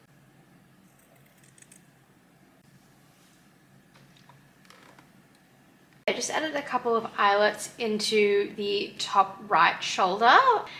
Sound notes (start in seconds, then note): none